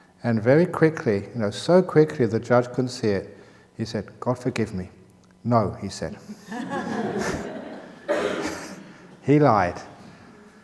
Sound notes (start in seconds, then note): 6.2 laughter